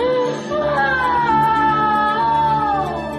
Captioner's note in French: bawling